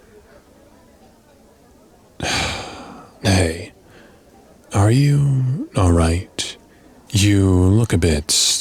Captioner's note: sigh